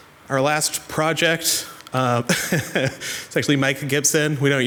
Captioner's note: laughs